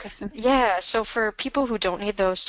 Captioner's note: voiceover